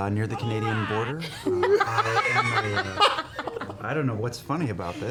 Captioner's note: laughter